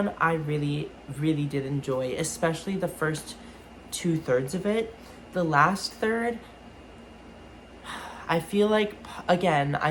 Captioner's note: sigh